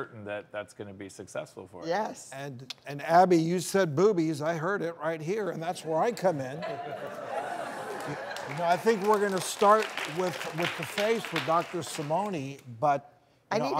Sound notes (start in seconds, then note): 6.2 audience laughs